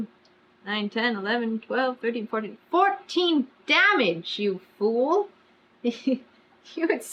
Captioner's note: laughs